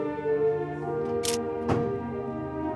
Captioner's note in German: Kameraklicken